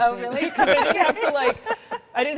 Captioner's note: all laughing